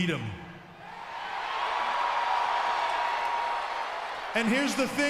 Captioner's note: audience cheers